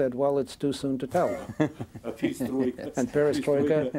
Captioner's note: chuckling